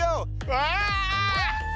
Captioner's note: screaming